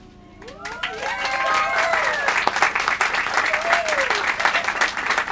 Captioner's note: applause